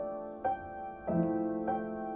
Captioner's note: none